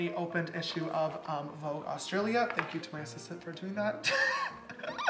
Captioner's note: laughs